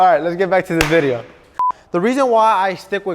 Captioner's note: beep